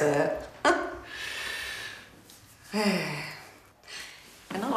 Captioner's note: Gina chuckling